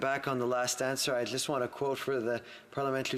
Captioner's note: speaking French